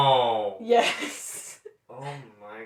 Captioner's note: laughter